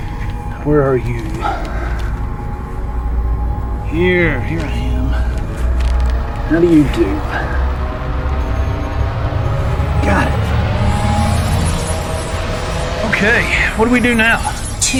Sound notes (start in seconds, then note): 11.5 systems humming